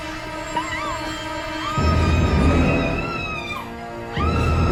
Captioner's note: screaming